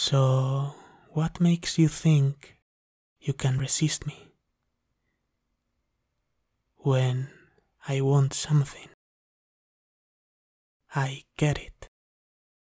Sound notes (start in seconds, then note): none